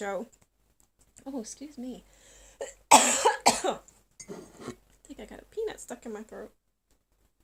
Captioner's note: coughing